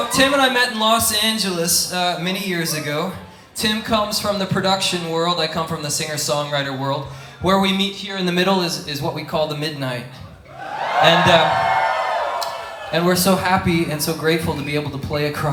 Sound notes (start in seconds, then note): 10.4 audience cheers